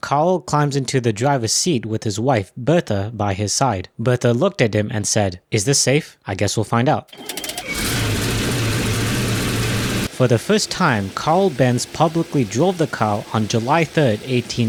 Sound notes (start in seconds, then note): 7.0 engine start